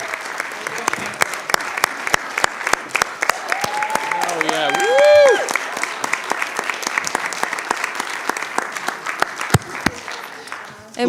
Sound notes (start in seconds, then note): 0.3 clapping; 2.9 cheering